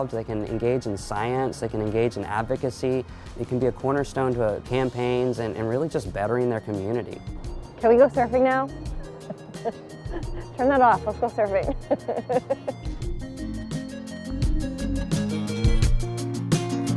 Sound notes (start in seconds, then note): 9.2 laughing